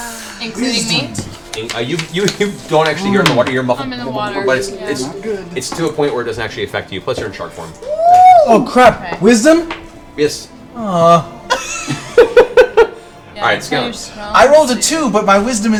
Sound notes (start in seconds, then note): 11.1 laughs